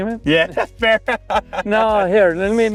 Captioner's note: laughs